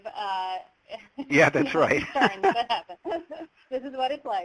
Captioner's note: laughs